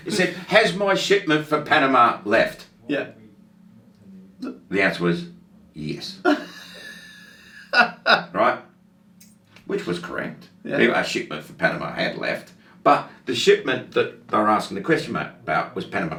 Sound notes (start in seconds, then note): 6.2 laughs